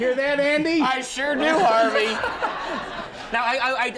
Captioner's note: audience laughs